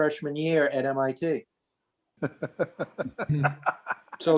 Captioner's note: laughs